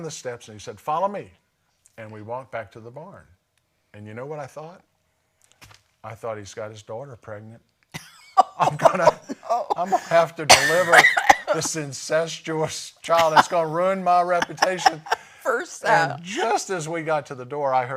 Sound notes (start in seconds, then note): 7.9 laugher and coughing; 14.0 laughter